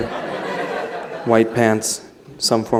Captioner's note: laughter